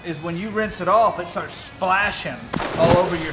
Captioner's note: water splashing